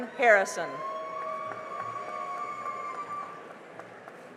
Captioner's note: cheering and applause